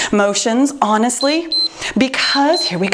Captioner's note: timer beeps